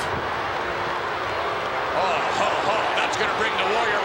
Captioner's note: crowd booing